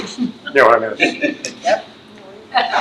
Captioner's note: trustee laughs